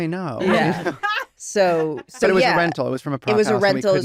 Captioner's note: hannah laughs